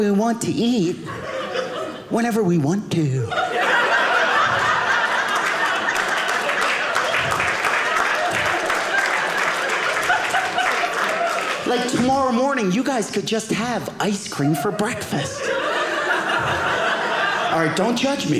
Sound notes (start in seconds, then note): 3.2 audience laughing; 6.9 audience applauding